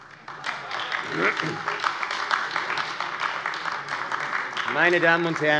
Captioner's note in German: Beifall AfD